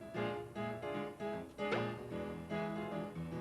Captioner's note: popping sound